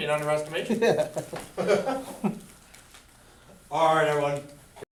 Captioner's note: laughs